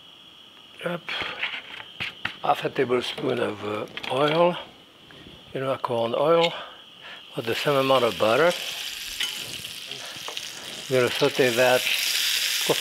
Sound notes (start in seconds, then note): 1.3 lid rustling; 7.3 butter sizzling